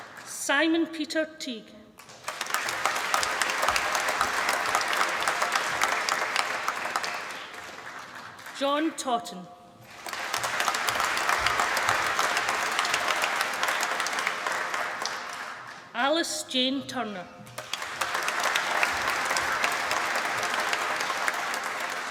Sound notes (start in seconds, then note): 1.9 applause; 17.4 applause